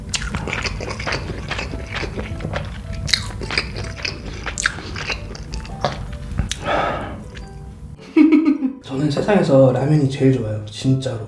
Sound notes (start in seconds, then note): 3.2 he's chewing every last bit